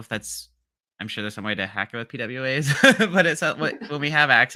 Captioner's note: laughs